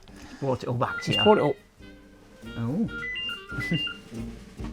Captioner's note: phone rings